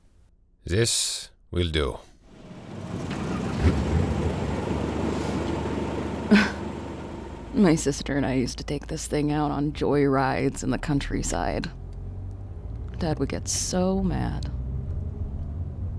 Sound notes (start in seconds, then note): 2.5 sound of a car engine; 6.2 Emily chuckles